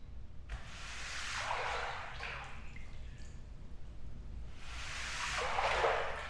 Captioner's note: sweeping liquid